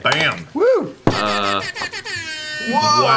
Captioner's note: air horn